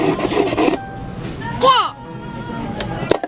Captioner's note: laughing